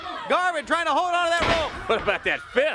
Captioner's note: crowd chatter